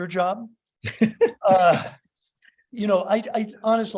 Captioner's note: laughs